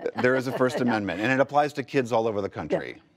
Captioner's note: laughter